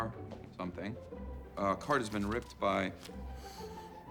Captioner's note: sniffing